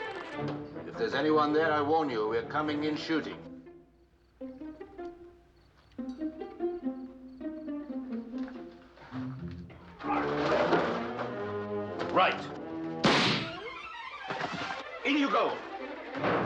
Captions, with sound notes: If there's anyone there, I warn you. We're coming in shooting. Right. [gunshot] In you go.